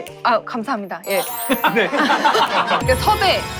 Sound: laughs again

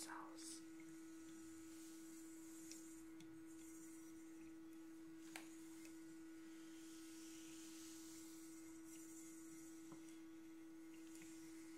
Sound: water Trickling

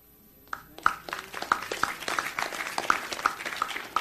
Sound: applause

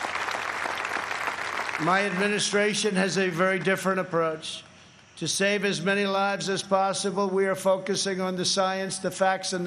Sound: applause

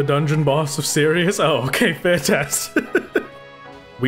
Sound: laughs

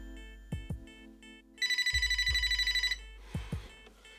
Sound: phone rings

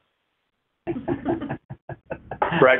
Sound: laughter

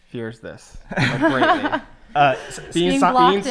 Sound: laughter

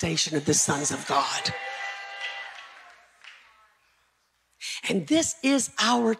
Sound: congregation chatter

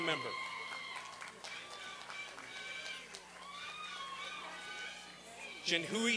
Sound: applause and cheering

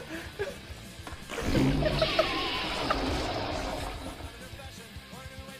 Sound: silly sound effect plays again, Jerma finding it equally as funny

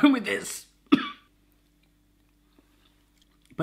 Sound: coughs

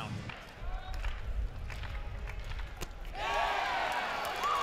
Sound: crowd cheers and claps

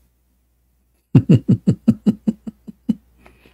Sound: Ketawa

